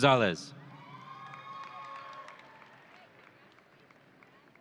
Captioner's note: audience cheering